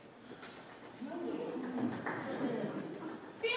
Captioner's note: golf claps